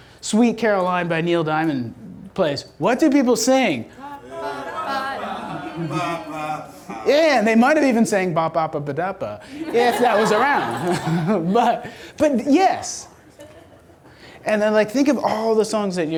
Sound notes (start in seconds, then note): 4.3 voiceover; 9.4 audience laughter